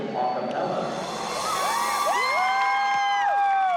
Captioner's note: cheering